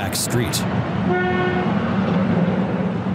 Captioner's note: car honking